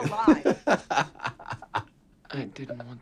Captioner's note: laughing